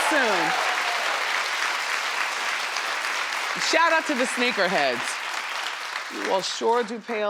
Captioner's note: crowd claps